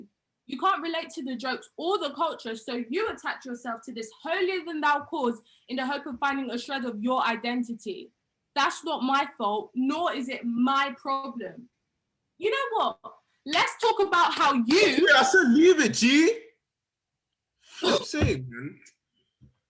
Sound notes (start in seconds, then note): 14.6 claps each syllable